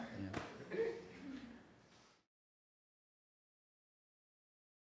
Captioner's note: audience laughing